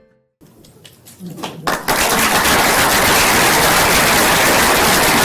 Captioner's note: applause